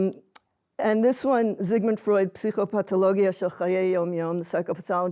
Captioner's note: hebrew